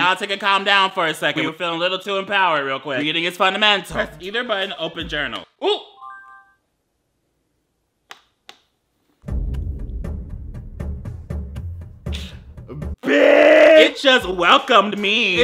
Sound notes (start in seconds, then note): 6.2 journal chimes; 9.3 drumming music